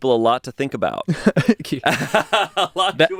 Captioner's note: everyone laughs